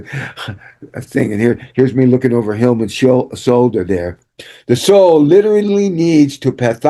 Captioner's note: laughter